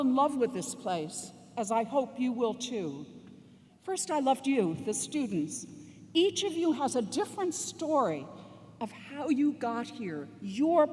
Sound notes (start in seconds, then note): none